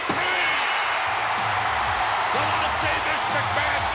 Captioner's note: energetic music; bell dings